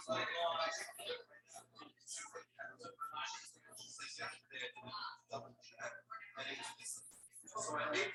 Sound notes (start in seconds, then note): 0.0 people chattering indistinctly